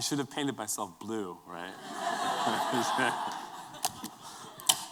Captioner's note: laughter